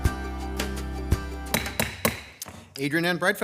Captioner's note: gavel banging